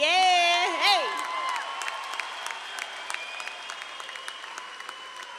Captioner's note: audience claps and cheers